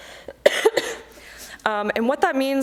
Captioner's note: coughing